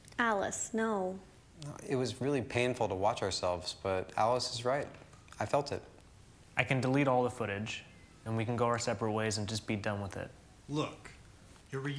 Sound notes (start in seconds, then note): none